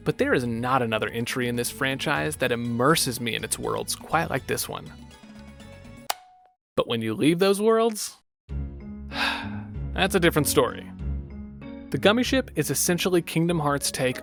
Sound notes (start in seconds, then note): 9.1 sigh